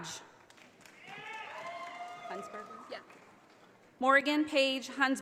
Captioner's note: audience applauding